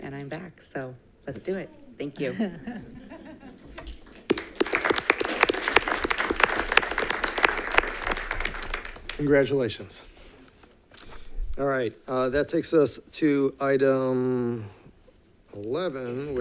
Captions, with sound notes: And I'm back, so let's do it. Thank you. (audience laughing) (audience applauding) - Congratulations. All right, that takes us to item 11,